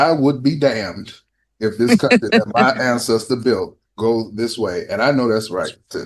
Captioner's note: laughter